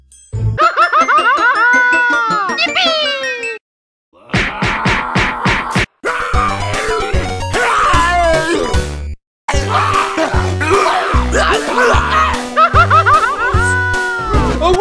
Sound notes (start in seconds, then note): 4.2 groan